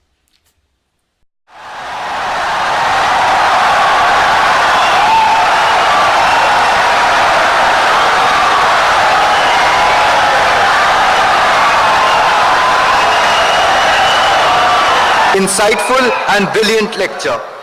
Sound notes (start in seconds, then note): 0.6 wild applause and cheering for 17 seconds